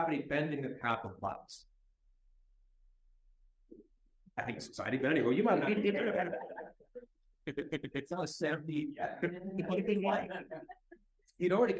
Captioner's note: laughter